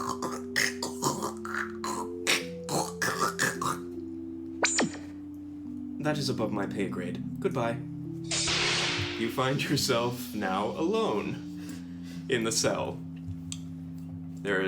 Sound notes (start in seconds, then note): 0.0 Guard speaking Trandoshan language; 1.0 translator Machine Sound